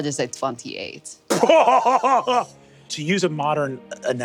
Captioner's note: laughs